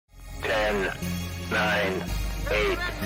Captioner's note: robotic Voice